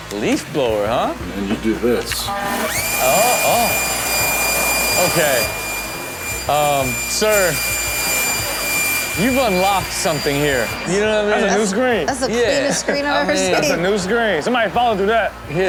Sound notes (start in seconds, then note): 2.8 leaf blower hums; 8.3 audience laughs